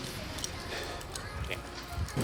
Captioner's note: sighs